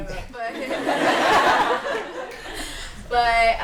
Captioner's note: laughter